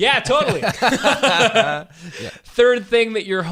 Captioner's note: laughing